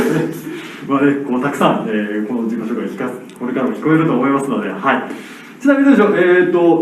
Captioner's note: speaking Italian